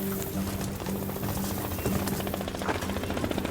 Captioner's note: helicopter whirring